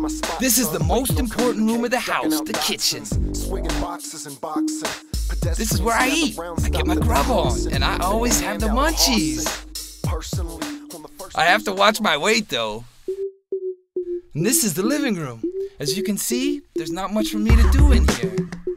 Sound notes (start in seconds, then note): none